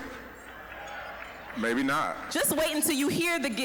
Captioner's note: scattered cheering